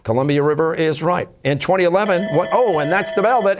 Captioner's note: bell ringing